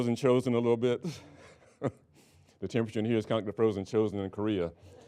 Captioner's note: laughing